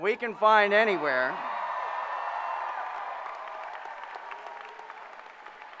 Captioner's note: cheering